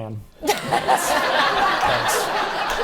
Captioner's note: laughing